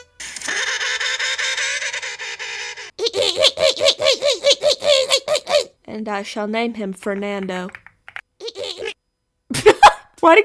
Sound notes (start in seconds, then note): 0.3 penguin sound; 3.0 much worse penguin sound; 8.1 Penguin sound trails off but gets deeper as it does so